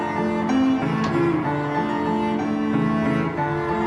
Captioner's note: door closing